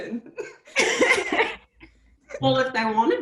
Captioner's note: laughs